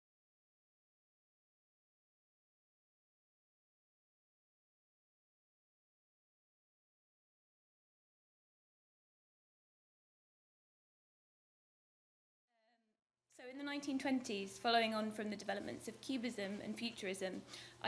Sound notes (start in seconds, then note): 0.4 silence